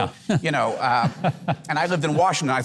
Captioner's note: Mike laughs